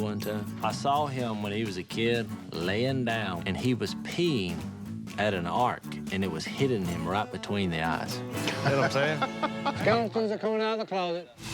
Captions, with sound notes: I saw him, when he was a kid, laying down. And he was peeing at an arc, and it was hitting him right between the eyes. You know what I'm saying? [laughs]